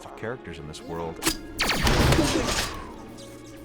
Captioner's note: explosion